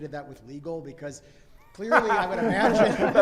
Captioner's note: panelists laugh